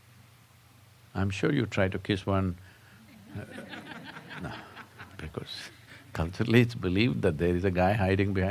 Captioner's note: laughter